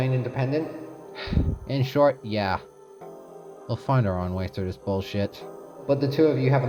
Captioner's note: sigh